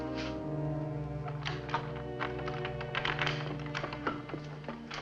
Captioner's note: unlocking door